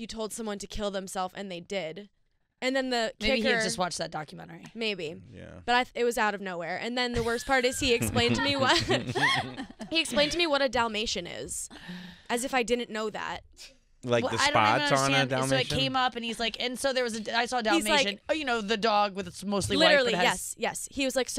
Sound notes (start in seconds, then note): 7.2 laughing